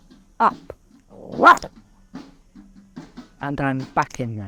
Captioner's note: roars